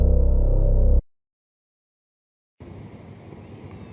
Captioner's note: suspenseful music; silence